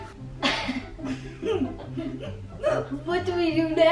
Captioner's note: laughing